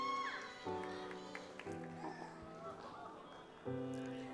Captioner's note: audience applauds